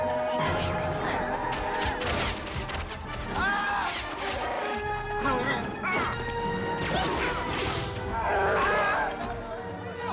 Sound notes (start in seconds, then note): 5.9 all Yelling